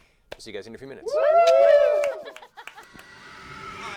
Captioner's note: cheering